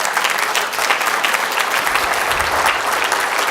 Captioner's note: applause